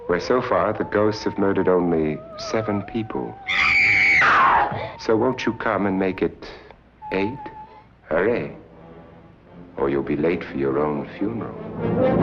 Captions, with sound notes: where so far the ghosts have murdered only seven people. (screams) So, won't you come and make it eight? Hurry or you'll be late for your own funeral.